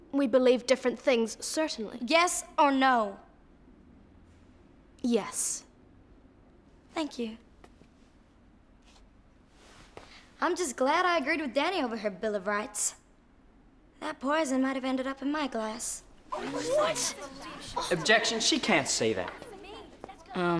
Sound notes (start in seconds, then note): 16.2 people murmuring